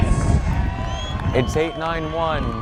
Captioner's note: crowd cheers